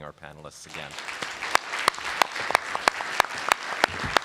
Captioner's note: audience applauding